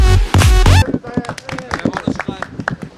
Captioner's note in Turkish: alkış sesleri